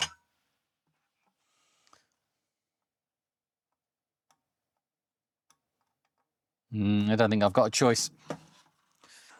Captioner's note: silence